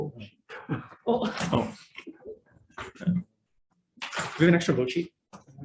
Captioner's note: Senators chuckle